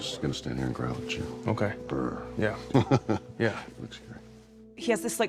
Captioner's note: growls, laughs